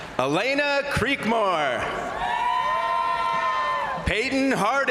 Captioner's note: crowd cheering; crowd applauding